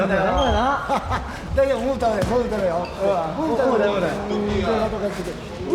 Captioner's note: laughter